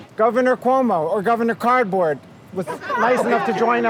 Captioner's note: laughter